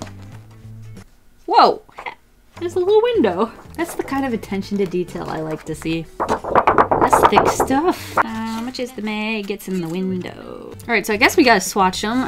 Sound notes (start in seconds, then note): 6.2 paper wobble; 8.4 sings